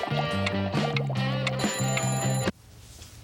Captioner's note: rings